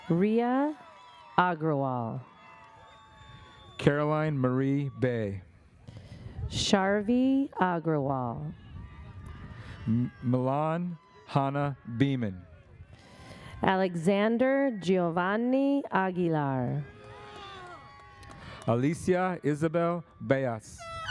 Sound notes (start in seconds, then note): 17.0 audience member cheers